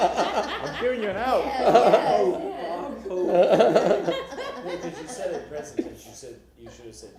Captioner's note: laughter